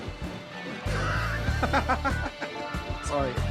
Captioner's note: laughs